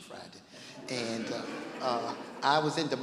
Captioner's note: laughing